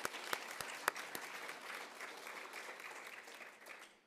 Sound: applauds

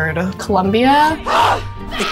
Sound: dragon boat grunting

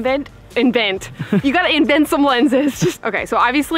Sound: laughs

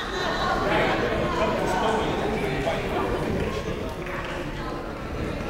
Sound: people talking in the crowd

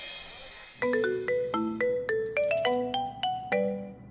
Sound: phone rings

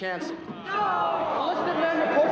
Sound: all groaning

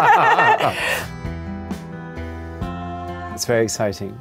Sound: both laughing

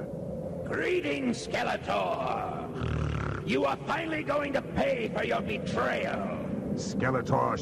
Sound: snort

